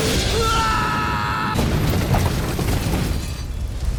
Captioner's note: Joseph yelling; crash